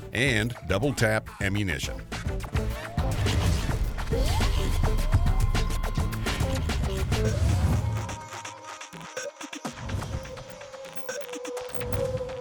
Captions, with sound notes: and Doubletap Ammunition. (high-tech mechanical sounds) (electronic music)